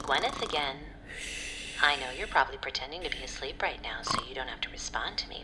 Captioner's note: snort